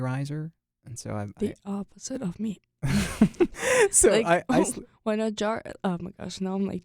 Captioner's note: both laugh